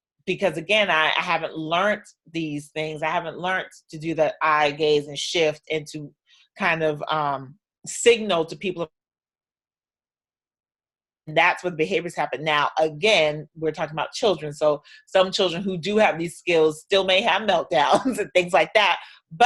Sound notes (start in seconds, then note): 9.0 audio drops out